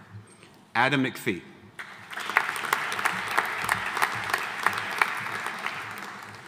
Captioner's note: audience applauding